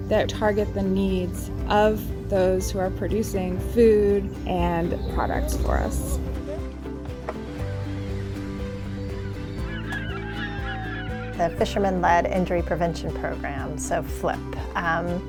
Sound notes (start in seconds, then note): 8.9 seagulls calling